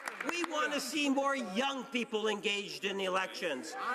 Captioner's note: cheering and Applause